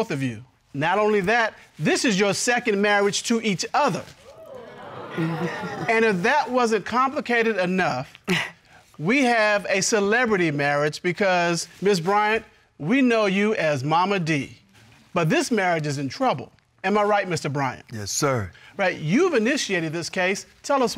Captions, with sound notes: Not only that, this is your second marriage to each other. -[audience cheering] -[chuckles] And if that wasn't complicated enough, we have a celebrity marriage because, Ms. Bryant, we know you as Momma Dee. But this marriage is in trouble. -Am I right, Mr. Bryant? -Yes, sir. Right. You've initiated this case. Tell us why.